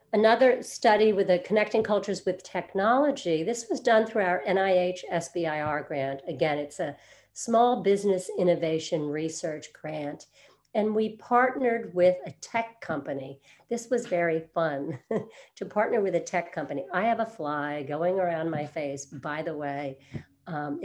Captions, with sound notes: Another study with a Connecting Cultures with technology. This was done through our NIH SBIR grant. Again, it's a Small Business Innovation Research grant. And we partnered with a tech company. This was very fun (chuckles) to partner with a tech company. I have a fly going around my face, by the way.